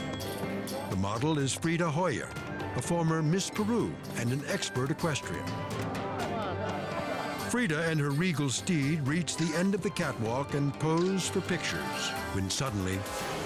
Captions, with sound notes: The model is Frieda Holler, a former Miss Peru and an expert equestrian. (crowd chatters) Frieda and her regal steed reach the end of the catwalk and pose for pictures. When suddenly...